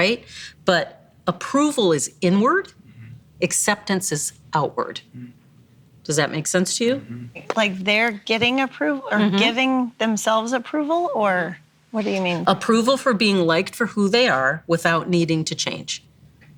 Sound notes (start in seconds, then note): none